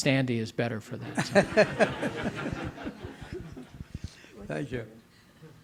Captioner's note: audience laughing